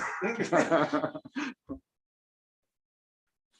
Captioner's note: laughter